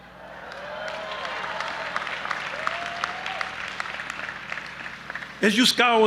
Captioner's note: audience applauding and cheering